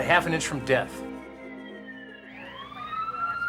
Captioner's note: sirens wailing